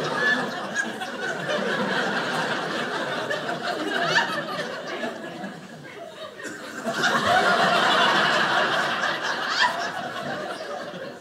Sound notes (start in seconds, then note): 6.8 audience laughing